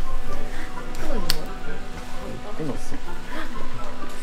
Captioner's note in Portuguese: Sem misericórdia na cara... / Estalo!